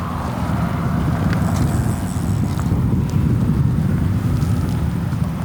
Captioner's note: fishing gear humming